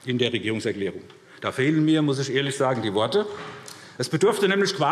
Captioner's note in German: none